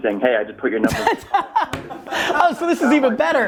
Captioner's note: group laughter